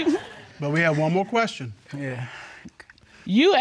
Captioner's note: sighs